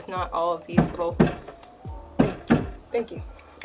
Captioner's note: banging